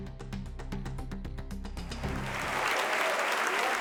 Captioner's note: applause